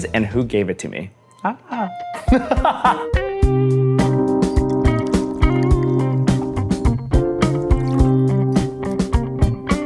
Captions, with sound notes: and who gave it to me. Ah. (laughs) (soft music)